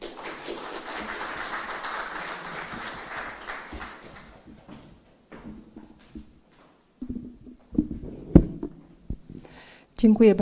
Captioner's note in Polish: oklaski